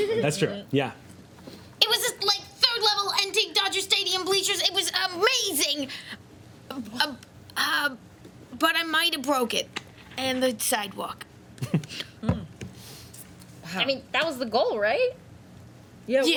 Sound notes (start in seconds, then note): 11.6 laughs